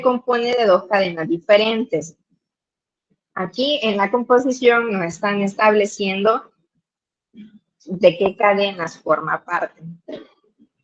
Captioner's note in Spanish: carraspeo